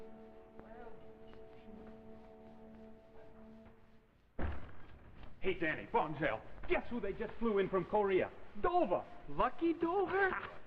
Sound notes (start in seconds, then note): 4.0 sound of door being pushed open